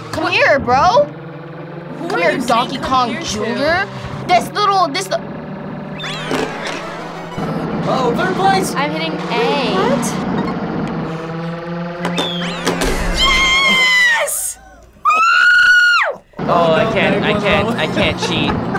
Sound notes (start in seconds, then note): 5.9 bright music; 12.4 bright music; 15.0 screams